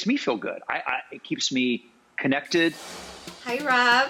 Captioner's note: air whooshes